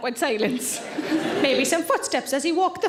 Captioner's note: audience laughing